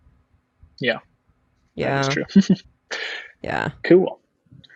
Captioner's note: laughs